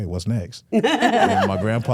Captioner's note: hosts laughing